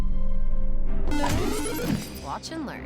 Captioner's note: box chimes; coins clatter